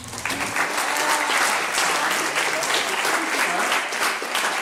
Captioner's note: clapping